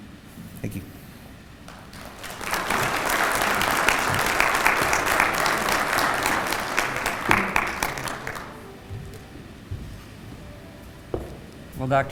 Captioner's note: applause